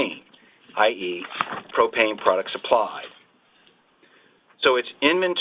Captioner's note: pages turning